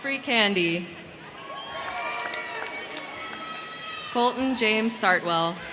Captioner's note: crowd cheering; crowd clapping